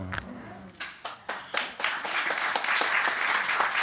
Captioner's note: audience clapping